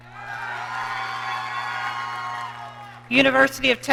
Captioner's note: audience cheering